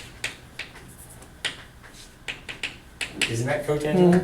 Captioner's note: chalk clicking on board